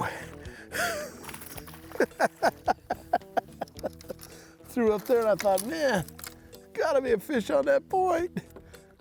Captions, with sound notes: [laughing] Threw up there and I thought.. "Man, gotta be a fish on that point".